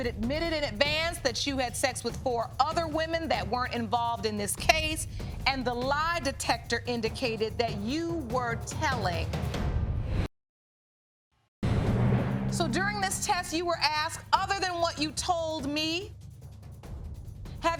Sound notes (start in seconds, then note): none